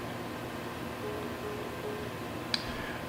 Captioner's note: hang-up tone